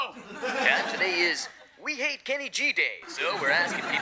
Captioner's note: Kevin on Radio